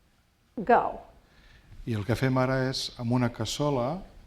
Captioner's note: speaking spanish